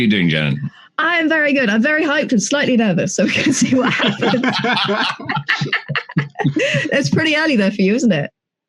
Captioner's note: laugher